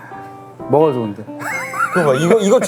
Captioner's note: hahaha